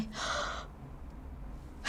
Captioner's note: gasp